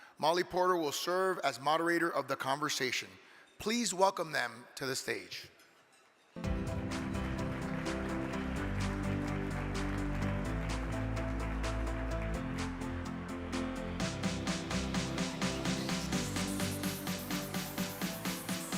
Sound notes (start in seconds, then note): 6.8 crowd clapping; 9.5 energetic music